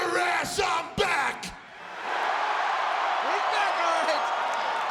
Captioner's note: audience cheering